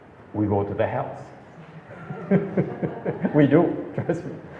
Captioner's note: laughs